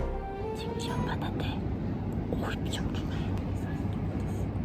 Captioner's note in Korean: 속닥